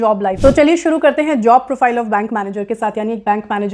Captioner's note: speaking hindi